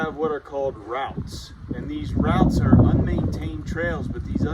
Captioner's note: wind blowing